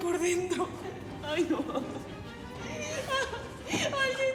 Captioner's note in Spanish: llanto